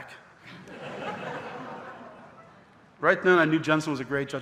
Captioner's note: audience laughing